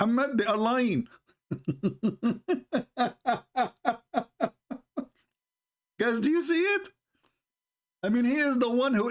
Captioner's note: Ketawa